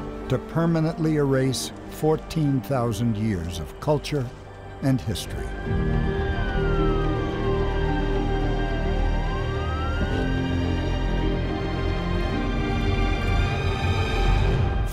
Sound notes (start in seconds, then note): 0.0 music, wind, and cricket sounds; 5.0 police siren noises; 10.2 music crescendoes